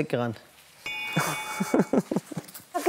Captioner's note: Glockenläuten